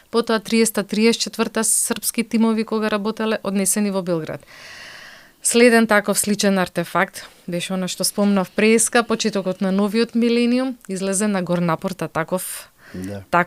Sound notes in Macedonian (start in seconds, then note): 4.4 тешко дишење